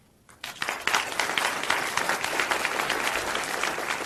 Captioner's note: applause